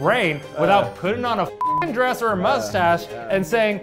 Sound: beep

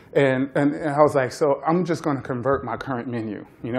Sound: none

